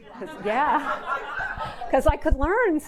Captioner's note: audience laughing